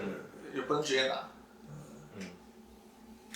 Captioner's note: nonverbal grunt as interjection